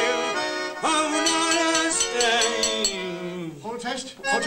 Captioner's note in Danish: Slår på glas